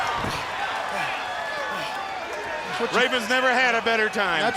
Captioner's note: crowd cheering